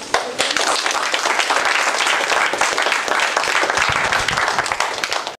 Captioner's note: applause